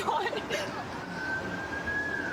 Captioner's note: siren wailing